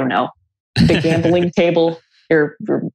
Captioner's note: laughs